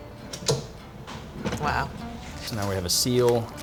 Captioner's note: lid popping